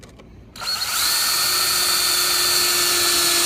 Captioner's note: whirring